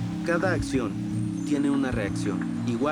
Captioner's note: voiceover